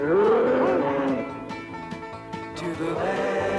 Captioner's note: dinosaur roaring